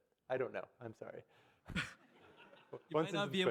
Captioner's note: audience laugh